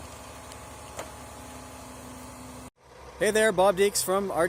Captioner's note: engine whirring